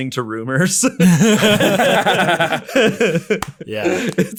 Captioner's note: laughing loudly